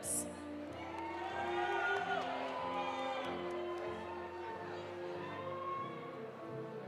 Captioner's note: audience applauding; audience cheering